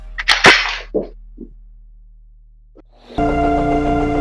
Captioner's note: gun clicking; upbeat music